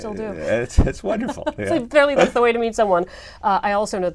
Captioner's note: laugh